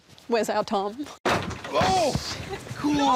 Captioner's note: door clatters